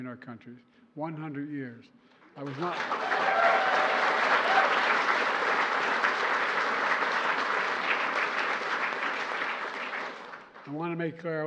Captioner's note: applause